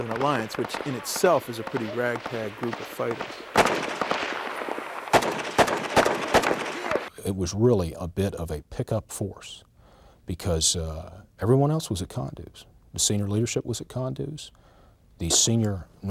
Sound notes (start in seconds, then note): 3.3 gunshots